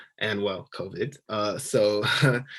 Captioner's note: laughing